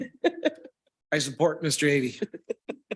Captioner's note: laughing